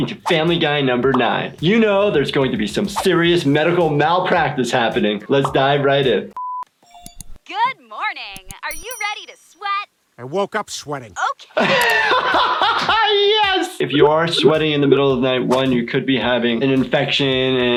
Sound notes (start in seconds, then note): 6.8 test tone beeping; 11.5 laughing